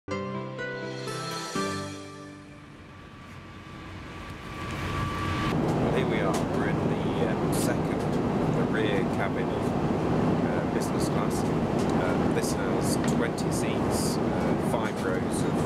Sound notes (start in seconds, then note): 3.2 airplane engine humming